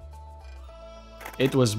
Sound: camera shutters

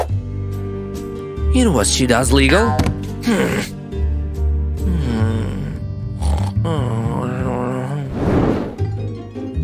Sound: little snores and mumbling

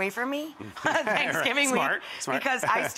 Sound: laughs

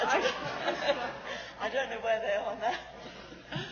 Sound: laughs

